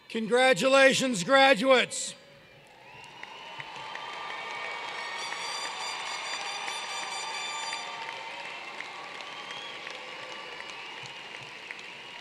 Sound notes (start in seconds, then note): 2.0 applause